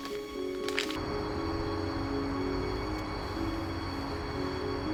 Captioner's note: crickets chirping